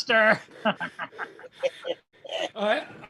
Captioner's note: laughter